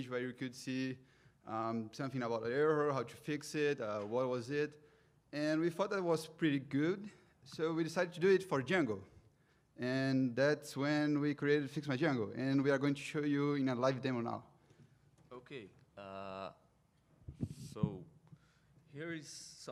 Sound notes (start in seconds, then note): none